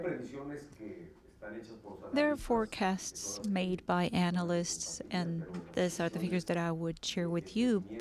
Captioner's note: through translator